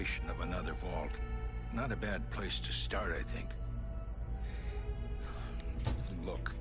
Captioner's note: sighs